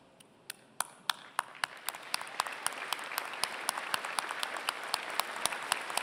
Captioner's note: applause